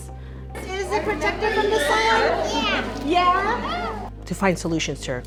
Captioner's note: sounds of a classroom